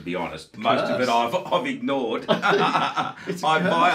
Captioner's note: laughing